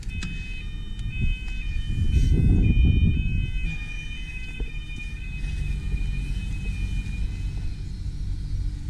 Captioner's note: beeping sound